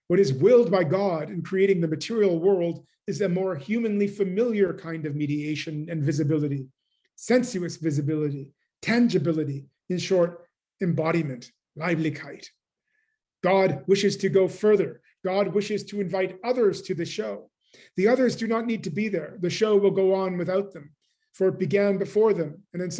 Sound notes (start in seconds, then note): 12.4 german